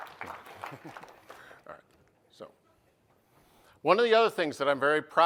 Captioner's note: applause; chuckling